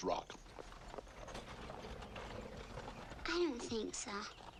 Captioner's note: wagons rattling faintly